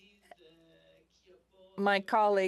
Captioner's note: speaking FRENCH